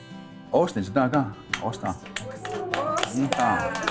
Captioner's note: speaking Cherokee to class; Students reply in Cherokee, clap hands